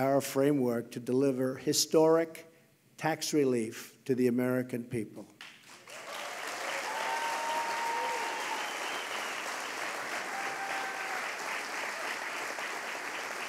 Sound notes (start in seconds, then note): 5.4 applause